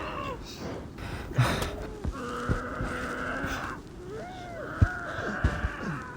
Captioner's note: men groaning